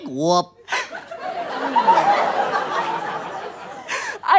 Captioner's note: audience laughs